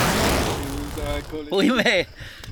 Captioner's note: laughs